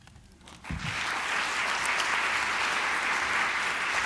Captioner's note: applause